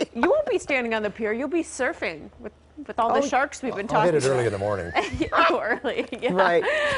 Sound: laughter

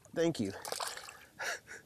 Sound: chuckles

